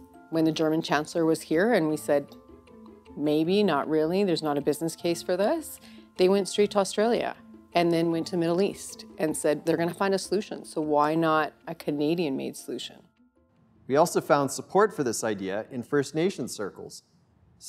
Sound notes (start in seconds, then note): none